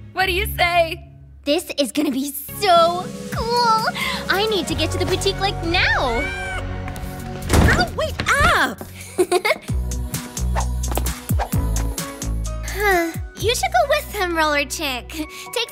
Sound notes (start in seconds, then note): 6.1 meows; 9.0 giggles; 12.6 sighs